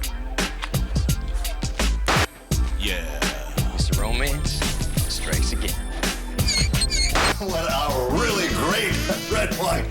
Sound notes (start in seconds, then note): 6.4 record scratches